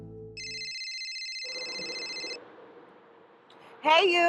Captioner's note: eerie music; cellphone ringing